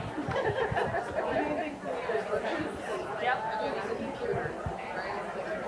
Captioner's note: people chattering continues